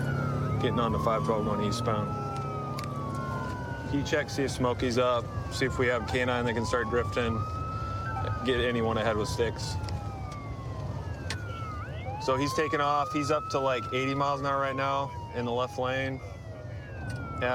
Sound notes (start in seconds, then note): 9.5 sirens wailing